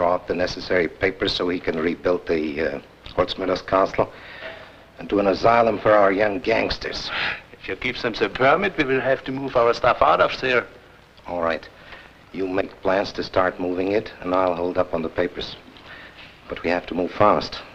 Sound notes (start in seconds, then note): 3.0 foreign language